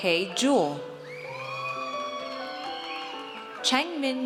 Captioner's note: audience cheers